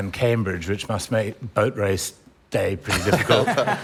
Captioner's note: laughter